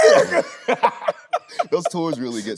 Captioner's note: both laughing